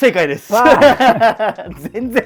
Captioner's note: laughing